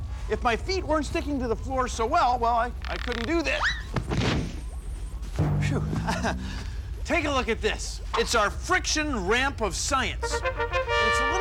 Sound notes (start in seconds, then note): 5.4 crash; 10.2 fanfare plays